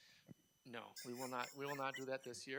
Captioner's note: laughing